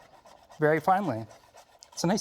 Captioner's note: knife lightly scraping